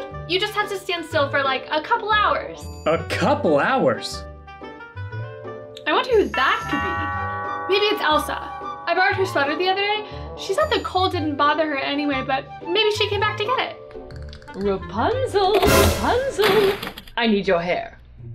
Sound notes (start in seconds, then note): 6.3 doorbell